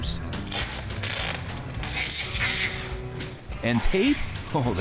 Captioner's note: tape ripping